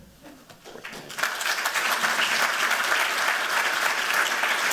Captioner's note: applause